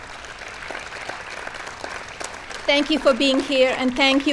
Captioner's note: applause